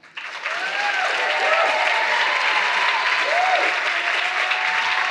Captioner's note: audience applauding